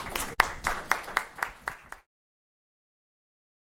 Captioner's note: applause